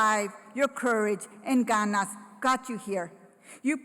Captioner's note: foreign language